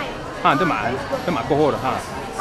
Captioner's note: somali